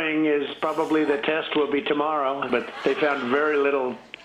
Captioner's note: laughter